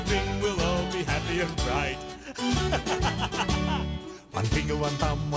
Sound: laughs

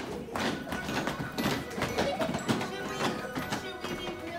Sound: marching

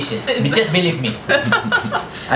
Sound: laughter

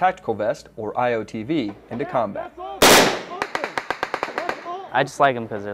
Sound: gun firing

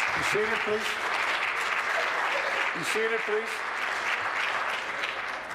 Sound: applause

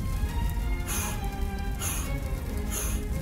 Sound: blowing air

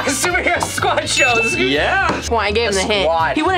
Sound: bell dings

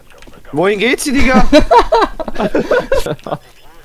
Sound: laugh

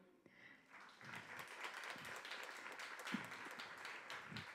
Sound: audience applause

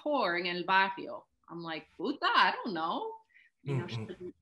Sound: speaks in Spanish

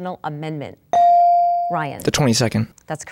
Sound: dinging

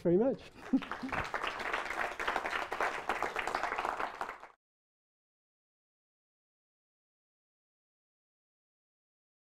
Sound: audience applauding

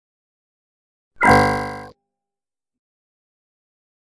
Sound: sound of error alert

